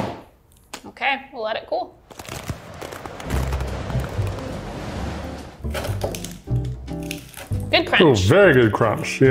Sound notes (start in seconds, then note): 2.0 ice crackling; 2.0 wind swirling